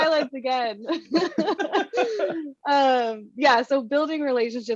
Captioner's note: laughing